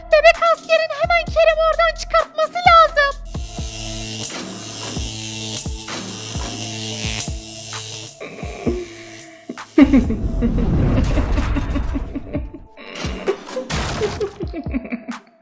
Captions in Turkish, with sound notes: Bebek Askerin hemen Kerem Komiseri oradan çıkartması lazım. (Elektrik sesi) (Gülme sesi)